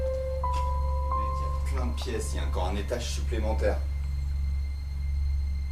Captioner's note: speaks French